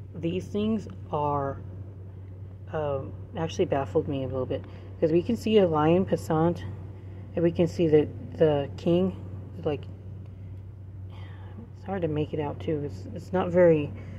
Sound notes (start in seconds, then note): 11.1 sigh